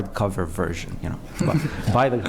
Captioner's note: laughter